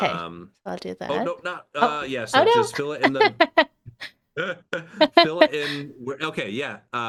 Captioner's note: laughing